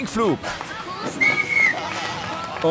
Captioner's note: Pfiff